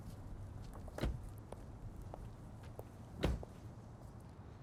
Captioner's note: doors shut